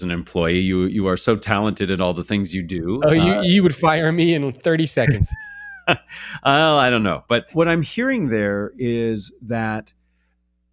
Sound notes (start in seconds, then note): 5.0 laugh